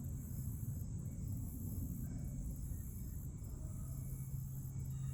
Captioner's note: birds and insects breathing soundly